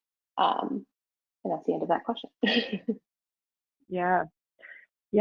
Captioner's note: chuckles